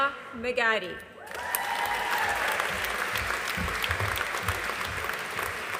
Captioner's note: audience applauding